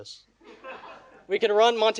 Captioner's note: audience laughing